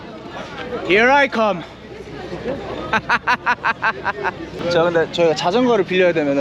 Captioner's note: laughing